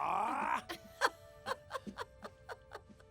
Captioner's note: giggling